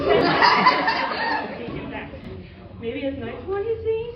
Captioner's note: laughter